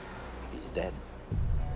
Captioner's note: none